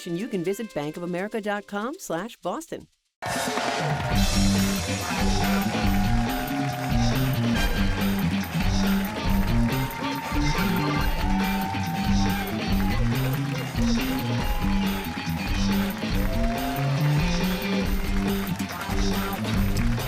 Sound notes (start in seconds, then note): 5.2 cheers and applause